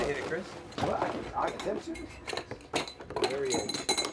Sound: chatter

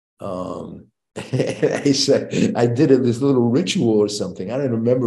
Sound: chuckles

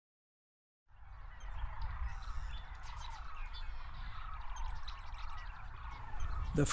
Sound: lively bird and nature sounds

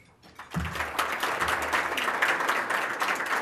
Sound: applause

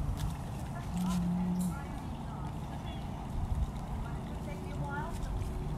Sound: leaves crackling

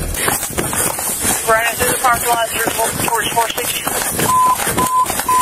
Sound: radio chatters

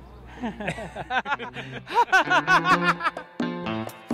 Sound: laughing

